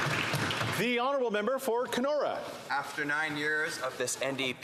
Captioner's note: some Applause